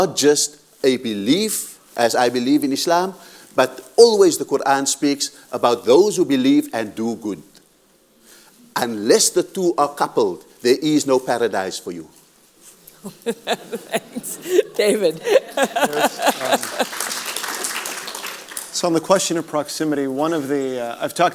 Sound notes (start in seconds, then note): 16.3 audience applause